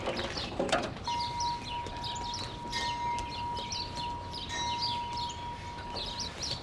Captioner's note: birds chirping